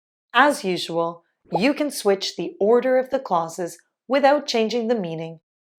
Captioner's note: none